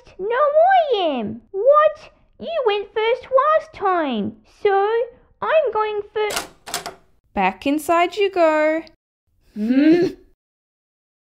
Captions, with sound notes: No I am! What?! You went first last time! So, I'm going fir... (Front Door Opens) Back inside you go... Hmmph!